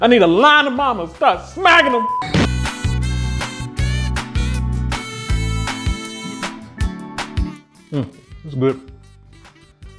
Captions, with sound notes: I need a line of mamas. Start smacking them (beep) (bright music) It's good.